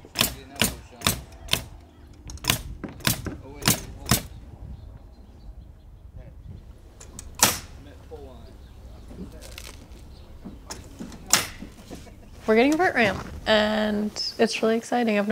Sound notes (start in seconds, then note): 0.1 nail gun popping; 5.3 distant chattering